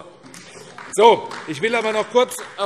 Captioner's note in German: Beifall AfD